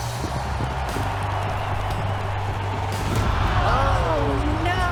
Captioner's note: crowd cheering